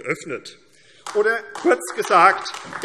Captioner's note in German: Beifall AfD